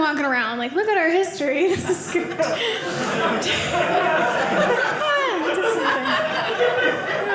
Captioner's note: audience laughing